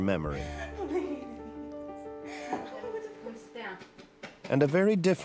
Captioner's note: cries